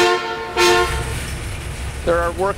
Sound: honking horn

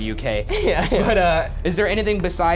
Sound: laughing

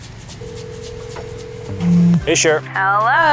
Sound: phone ringing

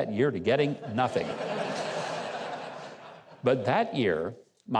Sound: audience laughs

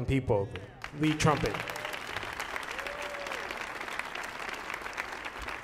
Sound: audience applauding

